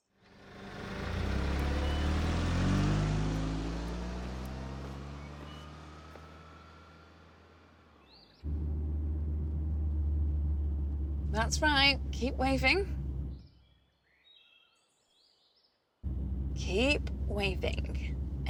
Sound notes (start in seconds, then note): 0.2 engine revving; 15.1 birds chirping